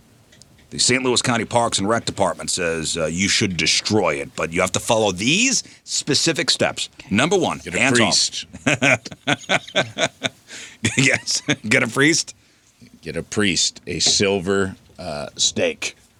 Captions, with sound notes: the St. Louis County Parks and Rec Department says you should destroy it, but you have to follow these specific steps. Number one, hands off. Get a priest. (laughing) Yes, get a priest. Get a priest, a silver steak.